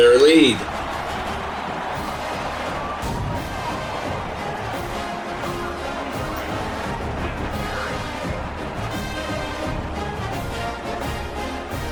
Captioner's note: crowd Noises